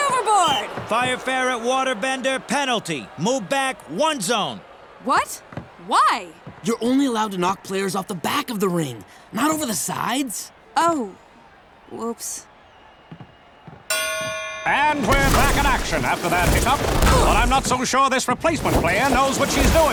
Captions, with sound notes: Fire Ferret waterbender penalty, move back one zone. What? Why? You're only allowed to knock players off the back of the ring, not over the sides. Oh. Whoops. [dinging] And we're back in action after that hiccup, but I'm not so sure this replacement player knows what she's doing.